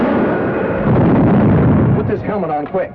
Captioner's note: loud explosion